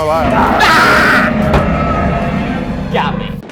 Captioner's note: monster roars